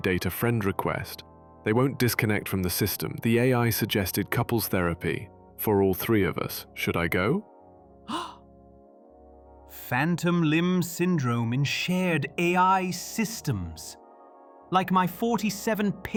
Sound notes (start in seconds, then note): 8.1 gasps